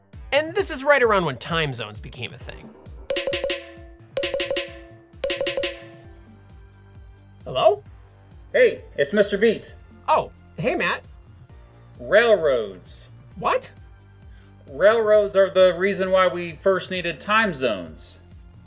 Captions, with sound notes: And this is right around when time zones became a thing. [Repetitive Clang Sound] Hello? Hey, it's Mr. Beat. Oh, hey Matt. Railroads. What? Railroads are the reason why we first needed time zones.